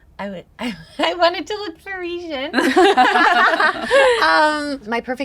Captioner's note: all chuckle